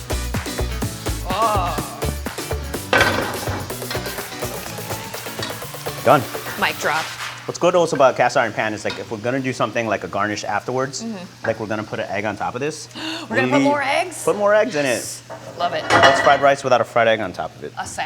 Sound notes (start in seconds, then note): 12.9 gasps